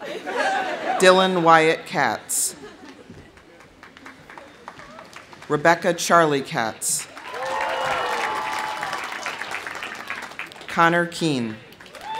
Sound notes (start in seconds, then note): 0.0 audience laughs; 2.8 audience applauding; 6.9 audience applauding; 7.1 audience cheering; 11.6 audience applauding; 11.8 audience cheering